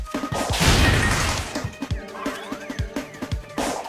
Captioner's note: sonic booms